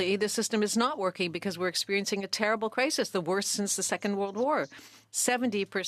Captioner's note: speaking French